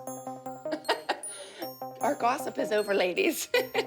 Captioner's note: chuckles; chuckles